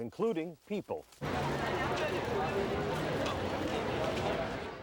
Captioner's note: people chatting